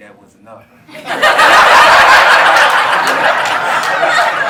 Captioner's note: audience laughs